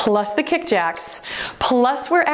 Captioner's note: timer beeps